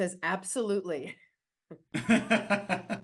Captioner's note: laughs